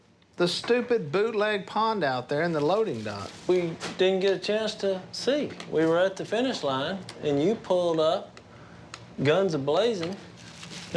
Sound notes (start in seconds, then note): none